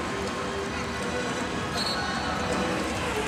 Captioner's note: whistle blows